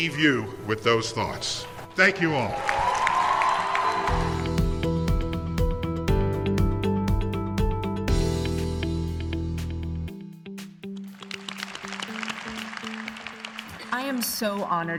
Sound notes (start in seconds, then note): 2.4 cheers and applause; 11.2 applause